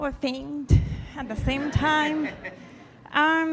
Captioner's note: audience laughing